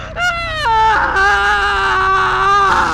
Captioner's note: screaming